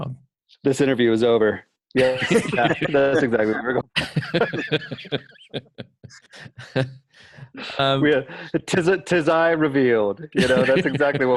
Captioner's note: laughter